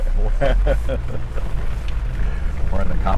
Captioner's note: laughs